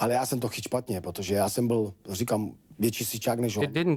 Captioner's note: speaking Czech